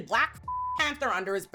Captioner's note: beep